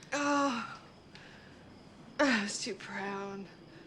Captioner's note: Sarah sighs